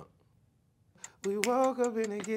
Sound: timer ticking

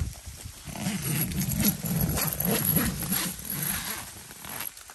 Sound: sound of zipper opening

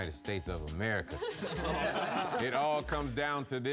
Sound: laughing

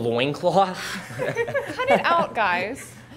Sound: all laughing

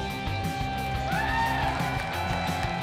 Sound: cheering

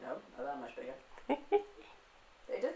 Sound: giggles

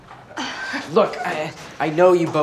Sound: scoffs

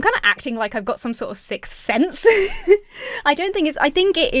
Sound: giggles

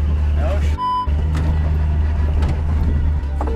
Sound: beep

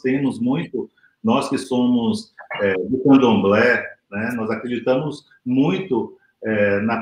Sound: speaks portuguese

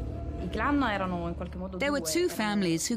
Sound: speaking in Italian

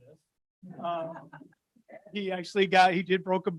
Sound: audience laughing

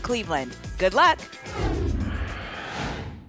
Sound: whoosh

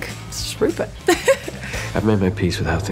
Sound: laughs

